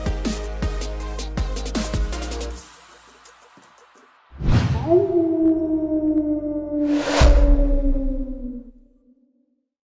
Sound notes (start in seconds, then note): 4.7 coyote Howl